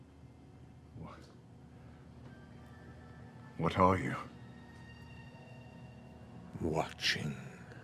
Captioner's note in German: mit englischem Akzent